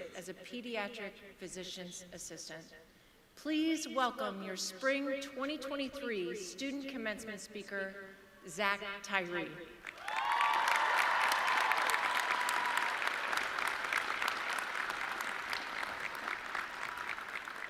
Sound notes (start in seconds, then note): 9.9 audience cheering